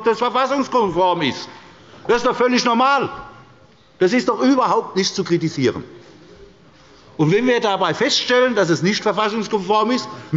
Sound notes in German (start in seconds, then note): none